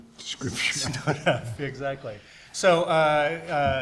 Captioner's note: laughs